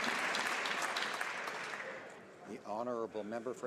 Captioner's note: applause